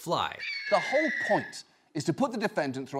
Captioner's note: eagle cries out